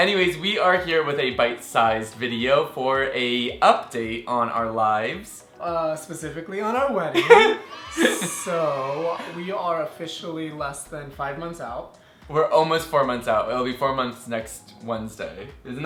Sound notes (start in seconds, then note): 7.1 laughs; 7.5 cheering sound effect